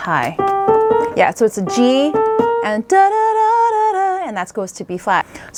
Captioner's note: humming